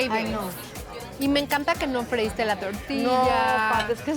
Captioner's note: speaking Spanish